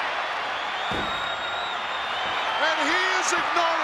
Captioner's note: fist pounding